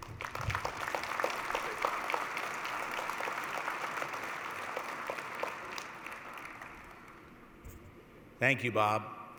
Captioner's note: applause